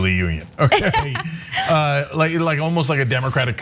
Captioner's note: laugh